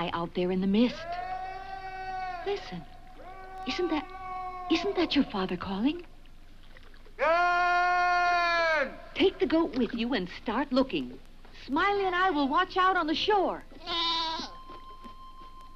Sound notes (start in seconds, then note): 13.8 goat bleats; 13.8 mellow harmonica music